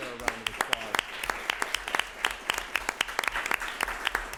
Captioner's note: applause